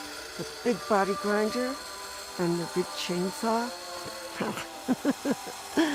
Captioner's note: laughs